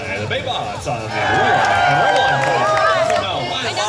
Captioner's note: crowd cheers